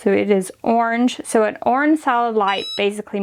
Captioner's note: beeps